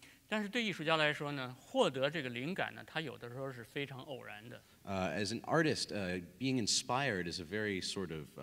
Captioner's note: speaking in Chinese